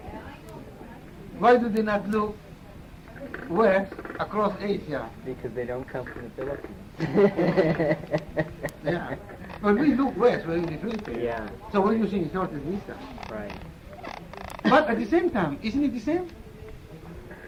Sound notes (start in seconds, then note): 7.0 laughter